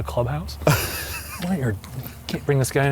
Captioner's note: laughs